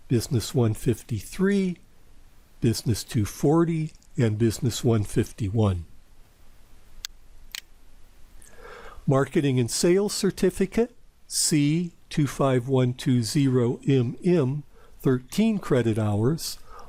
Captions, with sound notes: Business 153, Business 240, and Business 151. [PowerPoint click] Marketing and Sales Certificate, C25120MM, 13 credit hours.